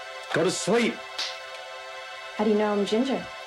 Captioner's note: fingers clicking